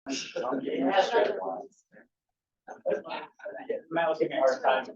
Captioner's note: attendees chattering